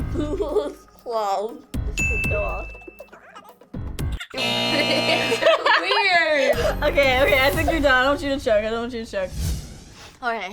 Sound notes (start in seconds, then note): 0.1 laughs; 2.0 bell dings; 4.3 buzzer sounds